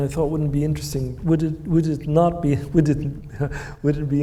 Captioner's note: chuckles